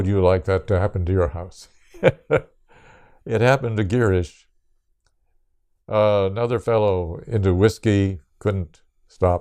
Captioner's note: laughs